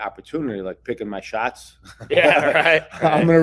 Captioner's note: both laugh